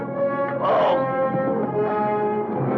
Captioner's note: groaning in pain